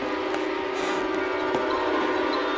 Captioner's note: floor creaks upstairs